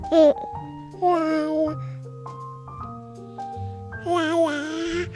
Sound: giggling and babbling

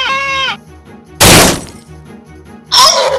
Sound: crash

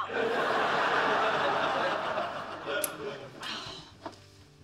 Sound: audience laughing

